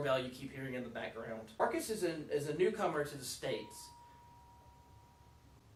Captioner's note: doorbell